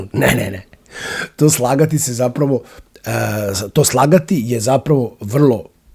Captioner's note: coughs